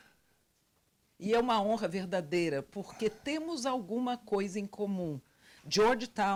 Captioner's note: translator speaking Portuguese